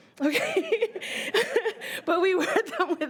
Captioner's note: laughing